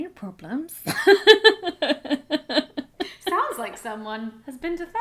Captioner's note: both laugh